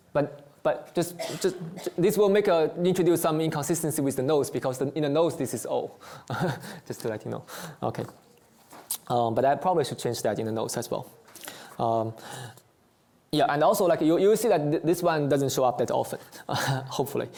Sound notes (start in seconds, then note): 6.3 chuckles